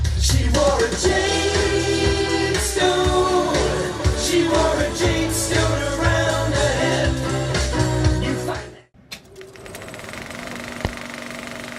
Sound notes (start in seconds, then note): 9.2 old movie projector start up sound